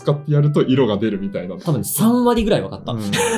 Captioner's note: laughs